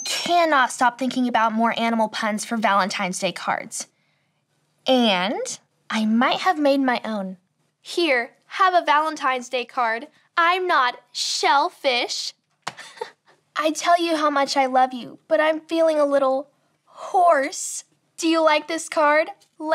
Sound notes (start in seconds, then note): 12.7 chuckles